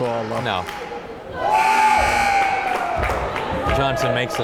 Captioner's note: timer buzzes